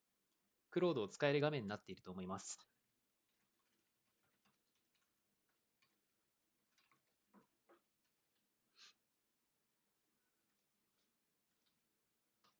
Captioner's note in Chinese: 十二秒停顿